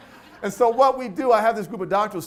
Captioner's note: audience laughs